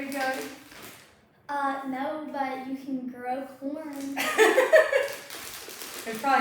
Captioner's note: laughs